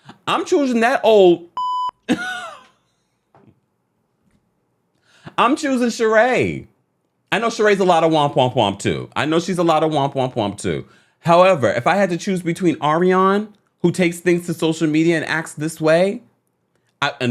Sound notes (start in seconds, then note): 1.5 beep; 2.2 scoffs